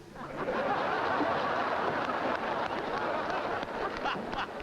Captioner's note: audience laughs